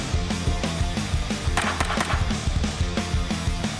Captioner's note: gun fires